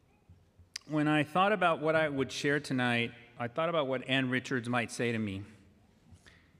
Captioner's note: speaking spanish